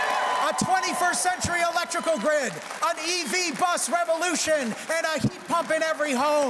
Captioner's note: cheers and Applause